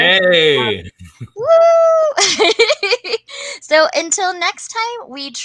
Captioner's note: cheers and laughs